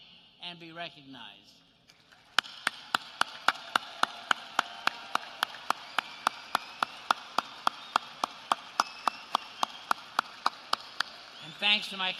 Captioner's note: applause